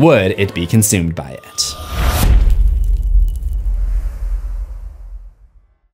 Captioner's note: impact